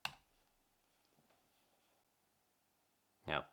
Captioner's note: silence